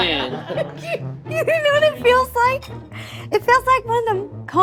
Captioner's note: laughing